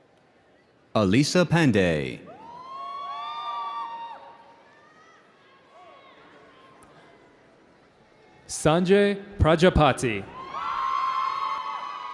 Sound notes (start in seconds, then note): 2.3 audience cheering